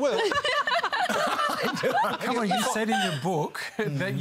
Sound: laughter

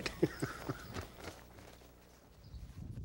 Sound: laughs

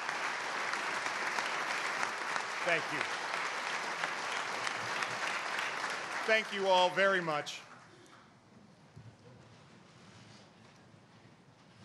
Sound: applause

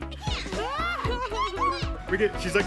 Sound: screaming

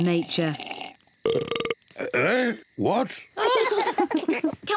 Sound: burps; all laugh

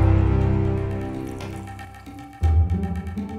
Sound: water pouring

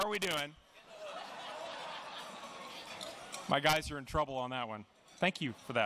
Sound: laughter

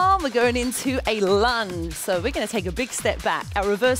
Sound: none

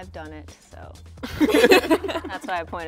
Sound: laughing

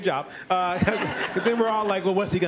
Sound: laughter

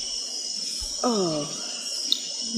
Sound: groans

